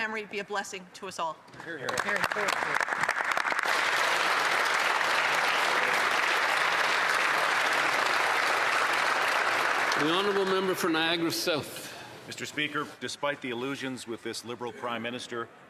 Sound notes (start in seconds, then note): 8.4 applause